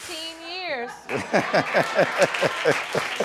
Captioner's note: laughing